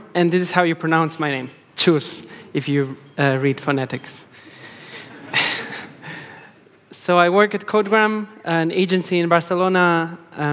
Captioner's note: laughing